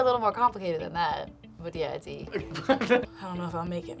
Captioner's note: laughs